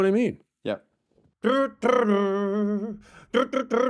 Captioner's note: hums